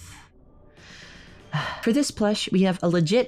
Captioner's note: sigh